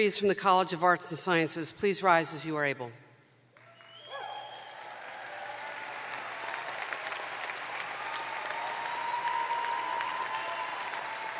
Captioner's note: cheers and applause